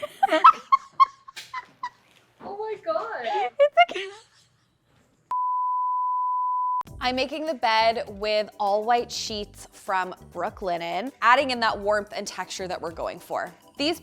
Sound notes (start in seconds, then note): 0.0 laughing; 2.9 giggles; 5.3 standby slide beeping; 7.0 upbeat music